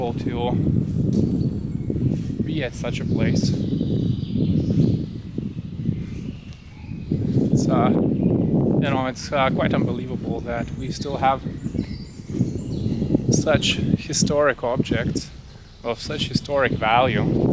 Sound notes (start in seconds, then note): 3.7 air whooshing